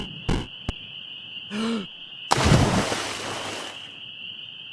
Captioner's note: inhales sharply, then dives into the water